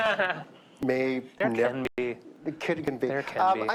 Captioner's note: laughs